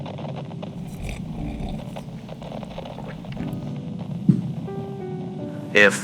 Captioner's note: Alastor drinks more wine and places the glass softly on the table fx